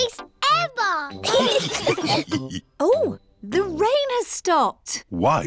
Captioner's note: laughter